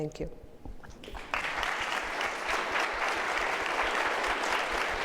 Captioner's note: audience applauding